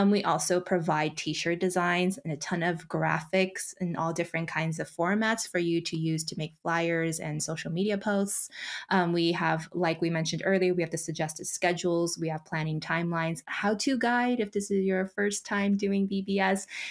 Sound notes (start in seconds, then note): none